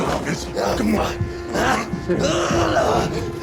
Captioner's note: grunting